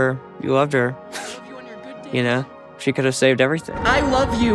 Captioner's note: chuckles